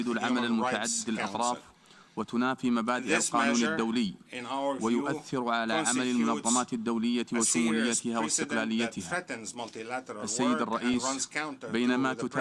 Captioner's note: speaking in foreign language